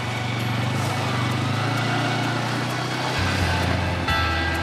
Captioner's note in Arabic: موسيقى درامية; هدير محرك الدراجة النارية; موسيقى درامية